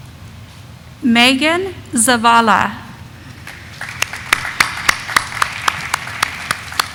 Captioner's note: audience applauding